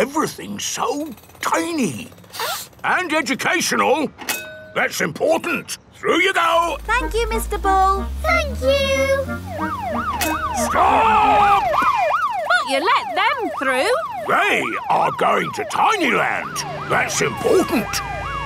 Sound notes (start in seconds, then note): 2.3 sniffs; 9.9 siren wailing; 18.2 sirens wailing